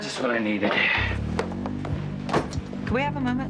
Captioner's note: Nash sighing